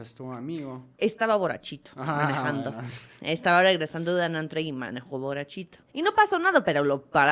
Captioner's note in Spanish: risas